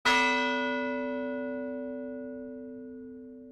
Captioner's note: bell ringing